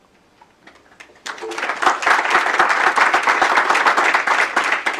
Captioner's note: applause